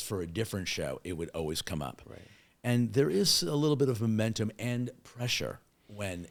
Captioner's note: none